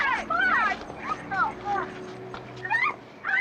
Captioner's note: screaming